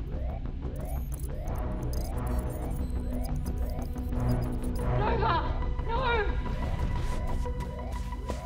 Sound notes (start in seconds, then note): 0.0 computer trilling; 0.0 alarm blaring